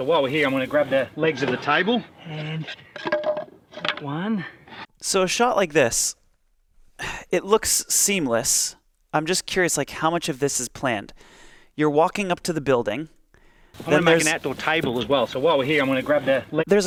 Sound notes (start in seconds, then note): 2.7 wood clatters